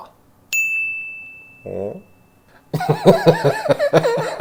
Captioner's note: bell rings; laughing